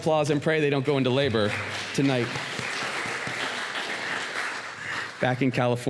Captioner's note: applause